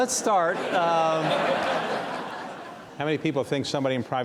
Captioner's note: audience laugh